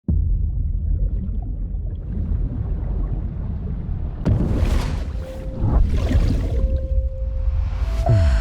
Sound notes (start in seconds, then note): 1.5 water rushing